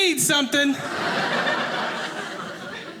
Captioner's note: audience laughing